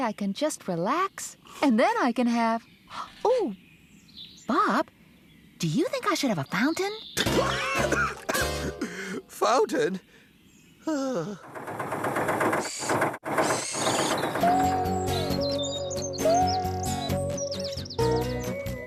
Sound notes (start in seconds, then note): 7.2 coughing and Choking; 11.5 engine Running